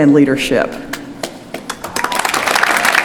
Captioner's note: applause